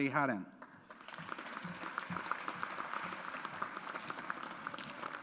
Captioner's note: audience applauds